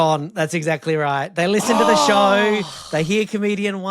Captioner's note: exclaim